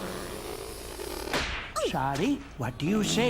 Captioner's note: exclaims